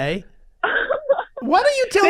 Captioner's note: laughs